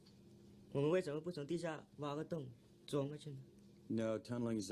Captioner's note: man speaks foreign language